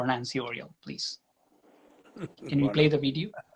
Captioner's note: laughs